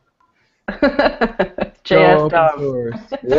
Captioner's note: laughter